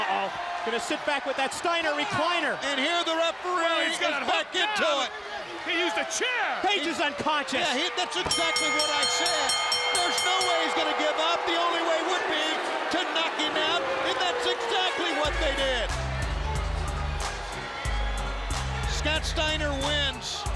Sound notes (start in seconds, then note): 12.0 bell ringing